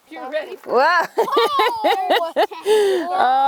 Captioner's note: laughs